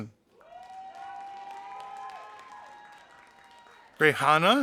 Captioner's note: audience applauding